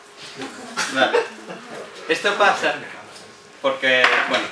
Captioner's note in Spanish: risas